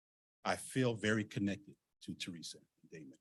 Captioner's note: speaking faintly